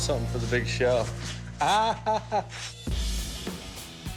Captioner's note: laughs